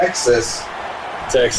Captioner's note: crowd Noises